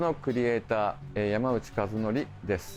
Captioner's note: speaking japanese